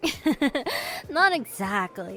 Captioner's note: small laugh